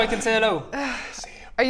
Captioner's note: sigh